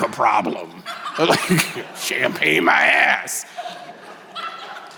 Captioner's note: chuckles; audience laughing